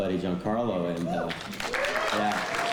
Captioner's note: cheering and applause